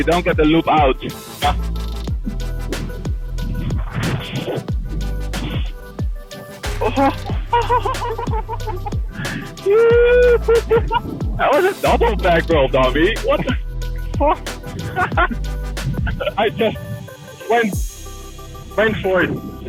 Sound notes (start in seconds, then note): 7.5 laughter